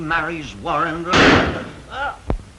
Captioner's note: gunshot